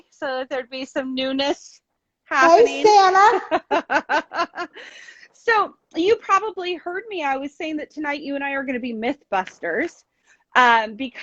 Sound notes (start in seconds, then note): 4.0 women laughing